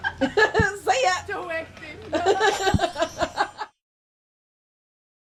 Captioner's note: laughs